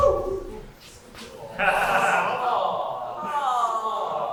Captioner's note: audience "awww"